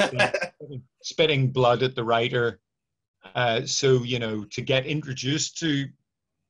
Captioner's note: all laugh